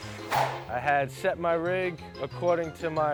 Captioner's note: air swoosh